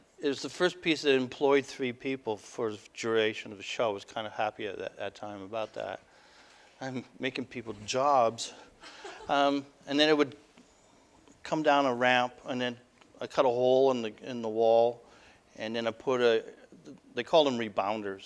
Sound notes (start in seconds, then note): 8.9 audience: Laughter